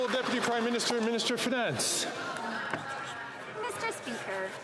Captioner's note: some Applause